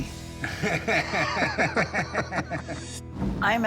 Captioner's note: laughter